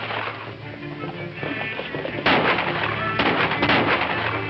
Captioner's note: rapid gunshots